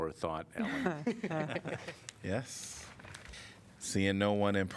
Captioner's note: laughter